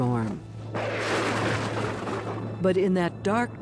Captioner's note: thunder roars